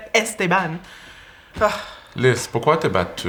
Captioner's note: Lys sighs